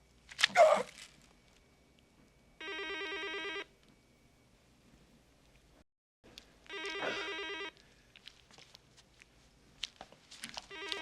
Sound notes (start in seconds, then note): 2.6 telephone ringing; 6.9 sighs